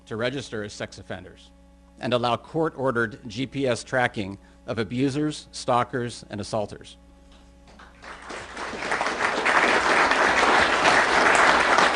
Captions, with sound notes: to register as sex offenders, and allow court-ordered GPS tracking of abusers, stalkers, and assaulters. [APPLAUSE]